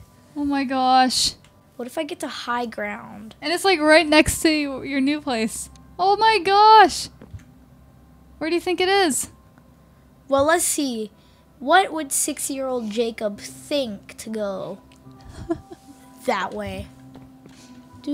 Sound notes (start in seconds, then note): 15.2 laughing; 17.9 imitating game music